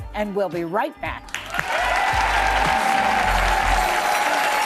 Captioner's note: applause